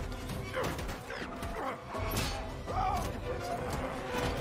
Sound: man grunts again

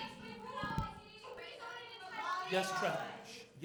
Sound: students shouting

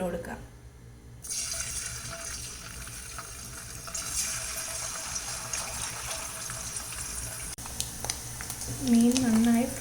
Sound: sizzling

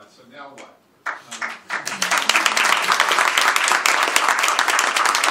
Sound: applause

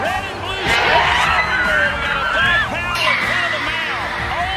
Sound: cheering and yelling continue

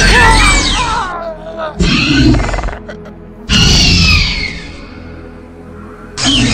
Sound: raptor Squeals

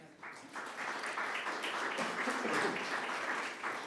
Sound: audience clapping

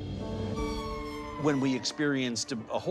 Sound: ambulance siren crying

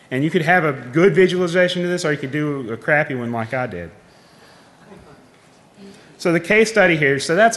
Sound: laughing

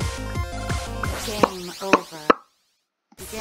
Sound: mouth popping intensifies

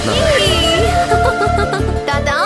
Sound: laughs

